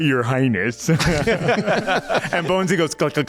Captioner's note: laughter